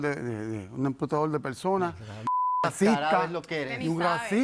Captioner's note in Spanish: Bip